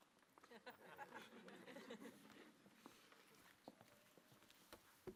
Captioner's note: audience chuckling